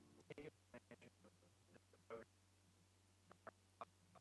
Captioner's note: stuttering audio